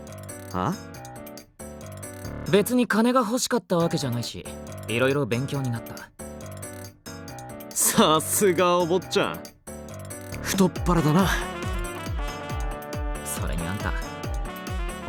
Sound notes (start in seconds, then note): none